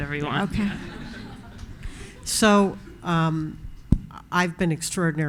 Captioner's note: audience laughing